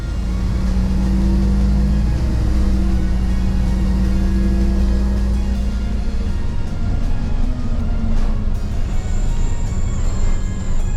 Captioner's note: music and bus engine noise